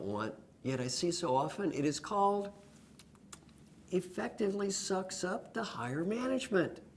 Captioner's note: lip sounds